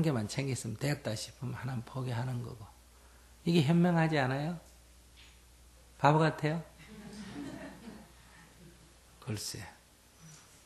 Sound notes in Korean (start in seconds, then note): 6.8 청중 웃음